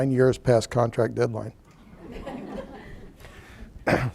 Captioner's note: laughter